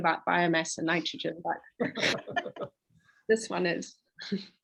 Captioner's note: all laugh